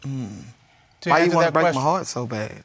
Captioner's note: groans